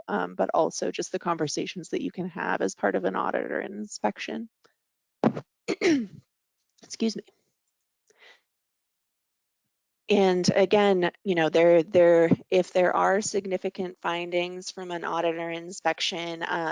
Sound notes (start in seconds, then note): 5.7 clearing throat